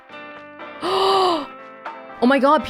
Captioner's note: gasps